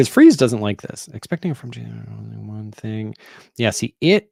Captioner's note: mutters